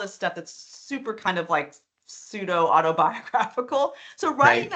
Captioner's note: chuckling